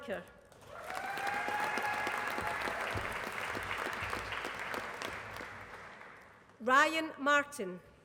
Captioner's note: applause